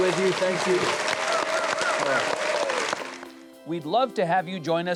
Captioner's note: audience cheering and applauding